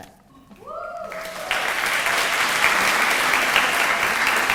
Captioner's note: audience applauding